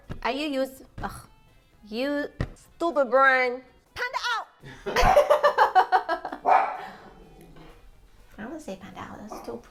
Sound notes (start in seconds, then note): 4.7 laughing; 6.4 bark